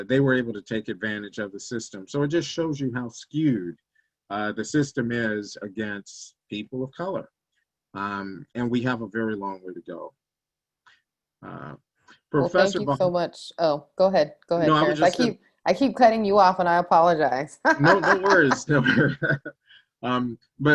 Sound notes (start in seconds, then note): 17.7 laughs